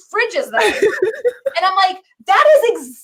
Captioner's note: laughs